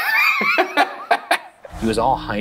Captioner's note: laughs